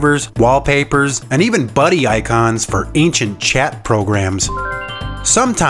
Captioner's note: instant Message Sound Effect